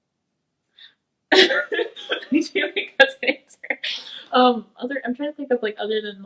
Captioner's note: laughing